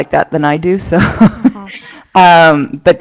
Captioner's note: laughing